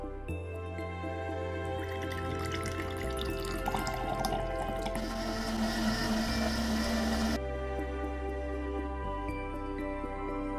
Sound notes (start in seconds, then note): 1.7 juice pouring; 3.8 blender roaring